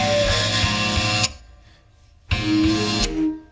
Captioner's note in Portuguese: Música silencia